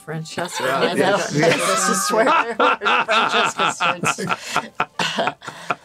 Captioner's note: laughing